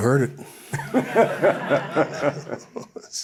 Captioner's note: laughter